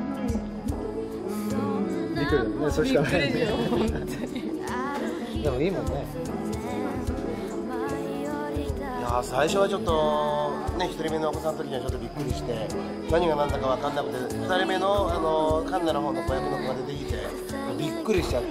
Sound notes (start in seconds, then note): 2.9 laughing